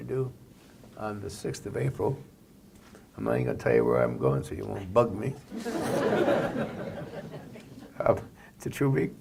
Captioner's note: laughter